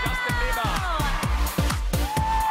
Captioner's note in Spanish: aplausos